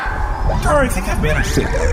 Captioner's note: audience cheering wildly